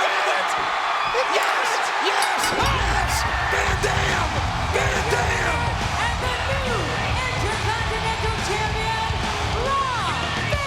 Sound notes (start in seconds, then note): 2.1 bell ringing